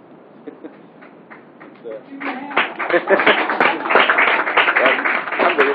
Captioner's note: Alkış sesi